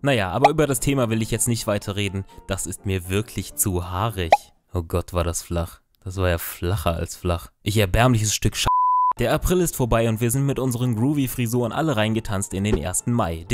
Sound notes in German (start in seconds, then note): 8.7 piep